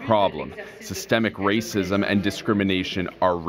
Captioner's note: speaking French